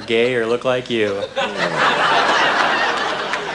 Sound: laughter

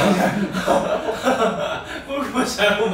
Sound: laughing

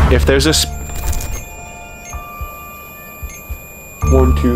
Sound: beeping

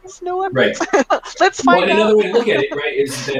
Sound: laughing

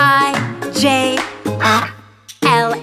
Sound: duck quacks

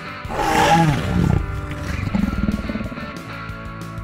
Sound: Carnotaurus growling; fun music

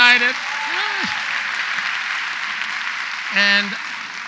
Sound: audience applauds

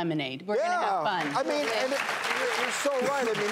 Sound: applause

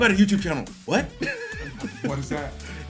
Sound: laugh

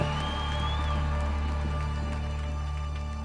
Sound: cheers fade

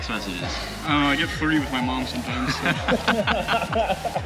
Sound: laughs

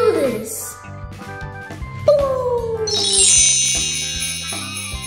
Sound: imitates light saber sound effect; bells lightly jingling

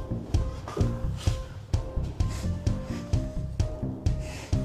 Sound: Dave gasping

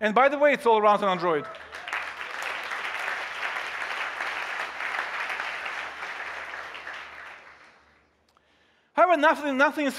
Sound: applause

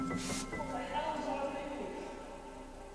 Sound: internal monologue

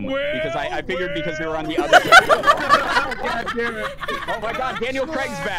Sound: laughter

